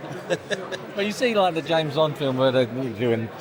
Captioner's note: laughing